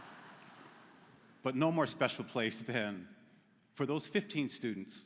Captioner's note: laughter�